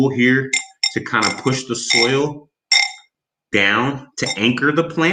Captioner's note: tool rattles on bowl